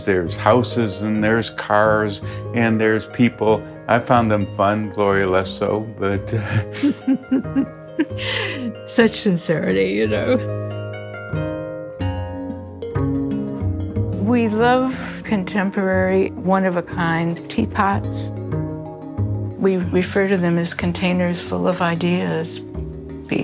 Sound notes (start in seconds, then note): 6.4 laughs